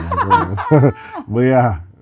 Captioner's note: laughter